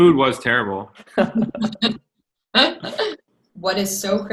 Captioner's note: laughter